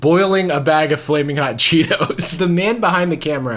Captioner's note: laughs